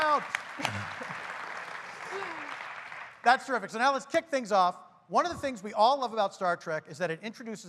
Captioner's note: applause